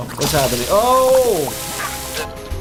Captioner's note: oil frying